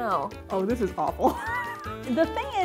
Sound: laughs

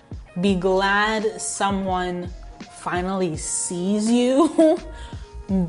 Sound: chuckles

